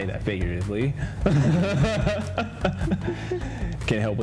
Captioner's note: both laugh